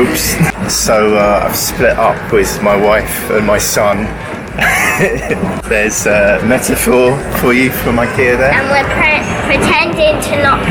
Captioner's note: laughs